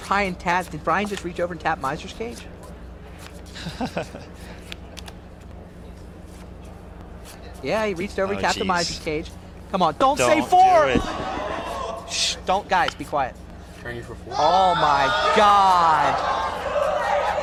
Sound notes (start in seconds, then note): 3.5 laughs; 10.4 crowd groans; 14.3 crowd groans louder